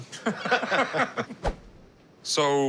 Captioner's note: laughter